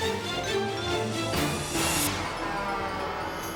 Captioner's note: dramatic music; truck swooshing; logo swooshing